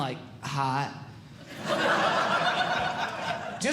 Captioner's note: audience Laughing